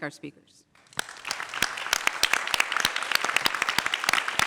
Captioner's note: applause